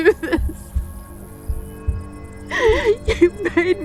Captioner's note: crying